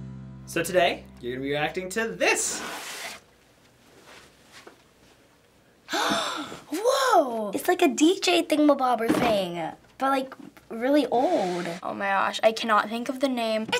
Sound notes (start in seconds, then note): 5.9 gasps